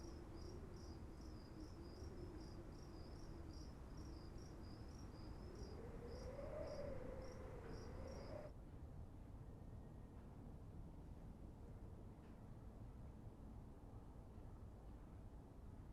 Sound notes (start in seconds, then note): 4.9 wind howling